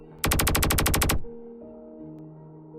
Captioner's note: gunfire